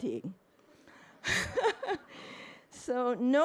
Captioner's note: crowd laughing